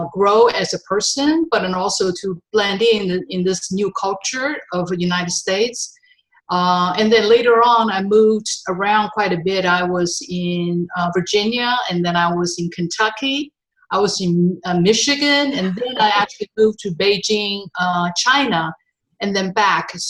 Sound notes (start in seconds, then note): 15.5 laughing